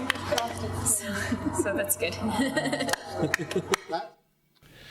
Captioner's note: laughs